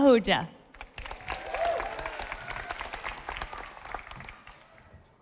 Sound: audience applauding

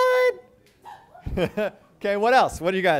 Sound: chuckles

